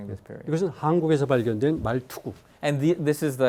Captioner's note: speaking in Korean